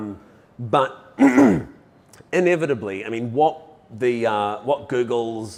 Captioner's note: coughs